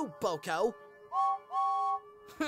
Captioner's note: james whistles